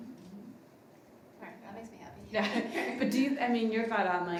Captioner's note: laughs